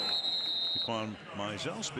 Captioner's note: whistle blows